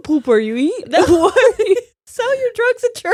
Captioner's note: laughing